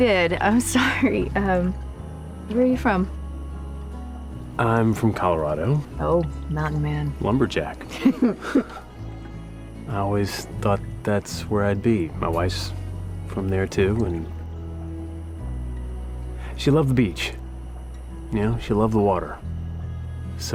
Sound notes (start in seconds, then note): 7.9 chuckles